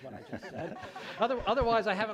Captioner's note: laughing